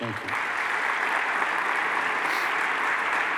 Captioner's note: applause